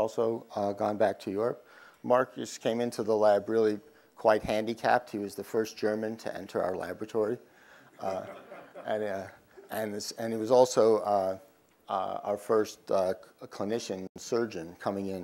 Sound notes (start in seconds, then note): 7.8 laugh